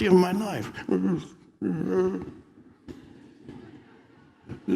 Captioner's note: groans